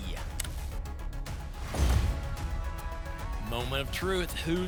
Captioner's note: thump; whoosh